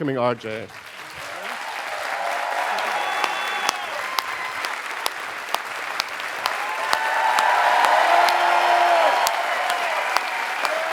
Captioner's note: applause